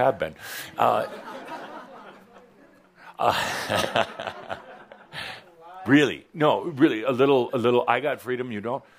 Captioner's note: chuckles